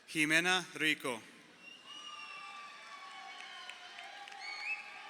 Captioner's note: crowd cheering